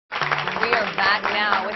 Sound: audience Applause

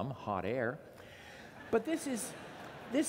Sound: laughter

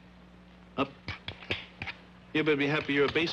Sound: metal clanging

